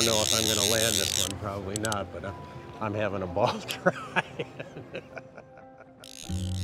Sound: laughs

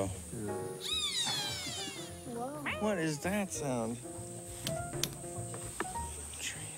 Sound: bird call

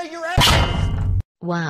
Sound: clang!

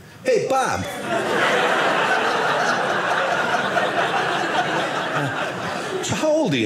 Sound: audience laughing

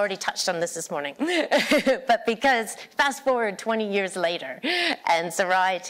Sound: laughter

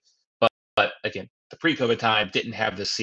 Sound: faintly speaking

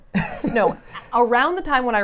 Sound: laughs

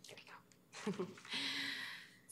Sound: chuckles

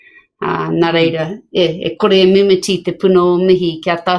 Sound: speaks maori

